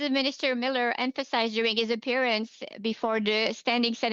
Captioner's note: speaking French